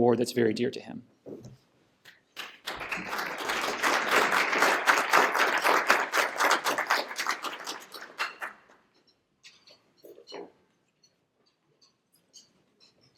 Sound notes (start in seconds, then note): 2.3 applause